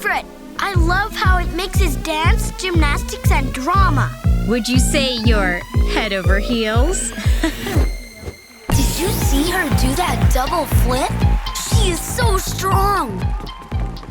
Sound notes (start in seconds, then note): 7.0 chuckles